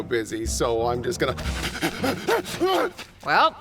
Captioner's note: frantic sprinting